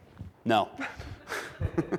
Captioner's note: giggles